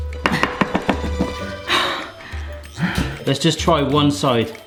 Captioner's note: whimsical music; panting